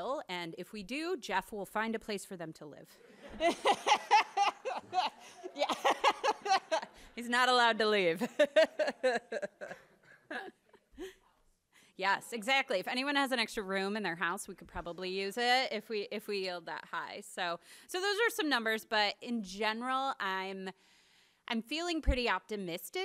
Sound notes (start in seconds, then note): 3.0 crowd laughs; 10.8 laughs